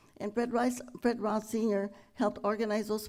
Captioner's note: none